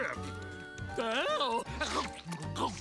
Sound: exclaims excited

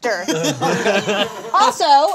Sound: all laughing

